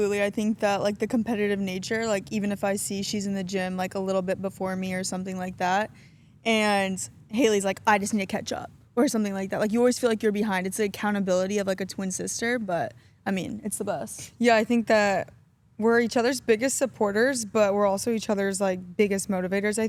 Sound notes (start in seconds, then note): none